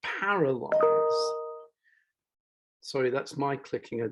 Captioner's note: computer chiming